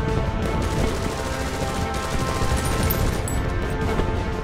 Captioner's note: machine gun noise